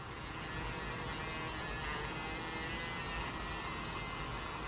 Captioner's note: tool buzzing